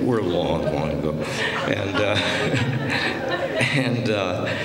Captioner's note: laughter